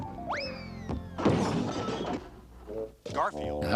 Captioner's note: crashing